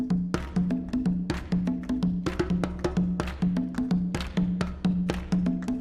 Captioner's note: hands clapping; djembe thumping